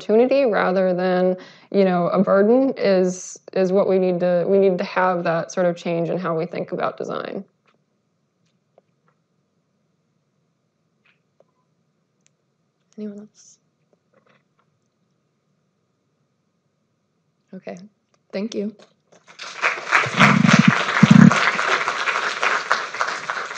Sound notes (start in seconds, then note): 7.8 silence; 14.0 silence; 19.2 applause